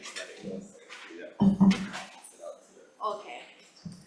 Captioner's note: speaking faintly